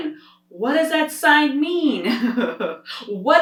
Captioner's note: laughs